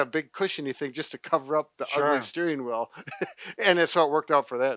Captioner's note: laughs